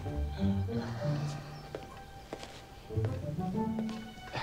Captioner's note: Reginald sighs